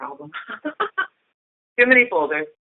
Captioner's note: chuckle